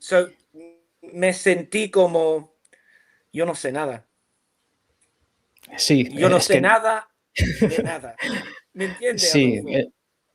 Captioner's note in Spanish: risas